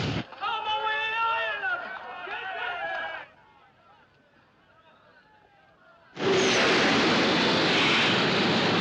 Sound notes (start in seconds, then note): 3.3 Gritos, conversas continuam; 6.2 rumbling